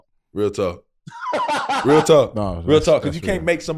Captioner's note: Rel laughing